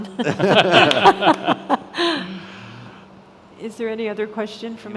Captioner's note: all laughing